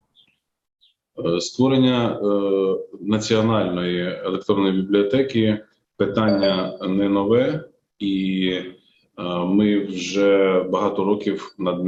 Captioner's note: foreign Language Spoken